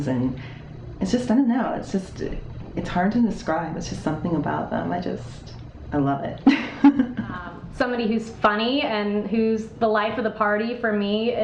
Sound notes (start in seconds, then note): 6.5 chuckling